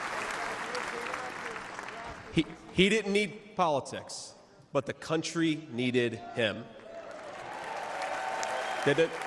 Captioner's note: applause